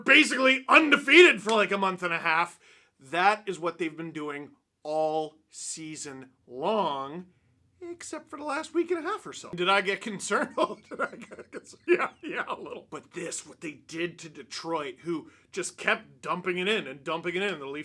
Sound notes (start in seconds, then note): 9.9 laughter